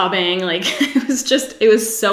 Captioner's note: giggles